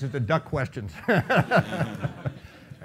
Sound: laughing

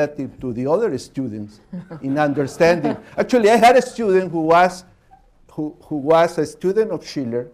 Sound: laughter

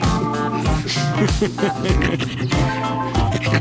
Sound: laughter

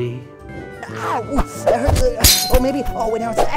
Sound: whooshing; glass shattering

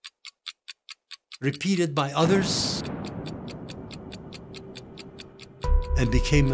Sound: explosion ringing out

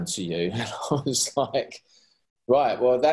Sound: chuckling

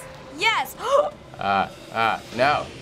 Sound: gasps

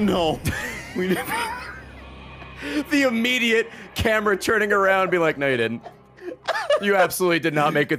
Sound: laughs

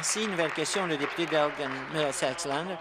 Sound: applause

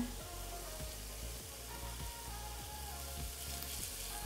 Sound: meat sizzling

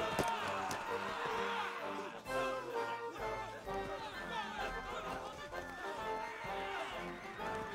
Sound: grunting and groaning

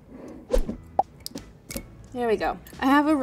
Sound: popping sound effect

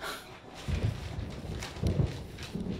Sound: thunder

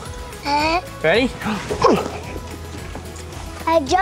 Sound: grunts

